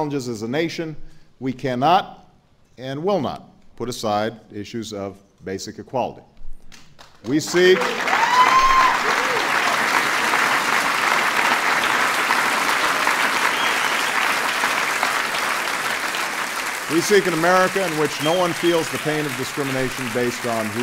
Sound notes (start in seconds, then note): 5.9 applause